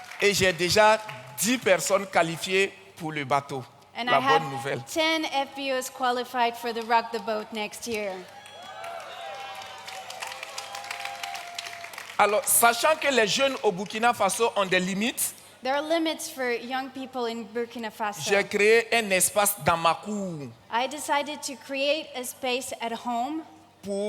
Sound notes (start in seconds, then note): 0.0 audience cheers and claps; 0.2 continues in French; 8.0 audience cheers and claps; 12.2 continues in French; 18.3 continues in French; 23.8 continues in French